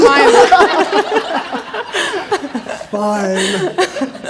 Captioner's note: everyone laughing